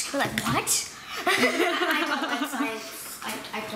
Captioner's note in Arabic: يضحك